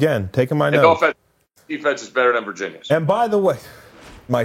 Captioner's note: mic cuts out